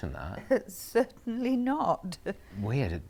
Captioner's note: Aquila laughs